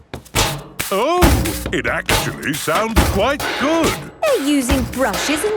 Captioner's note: rhythmic clanging